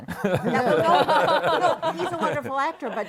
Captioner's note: laughter